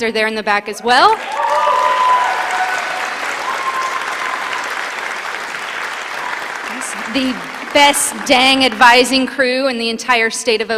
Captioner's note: applause